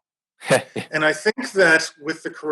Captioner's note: laughs